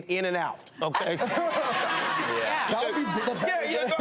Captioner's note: audience laughs